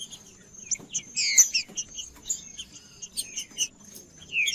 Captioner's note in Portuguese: trinca ferro cantando